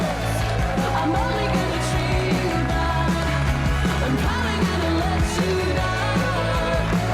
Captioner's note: applause and cheering